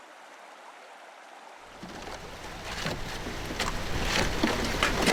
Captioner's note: rushing water